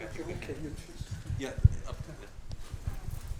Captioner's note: speaks faintly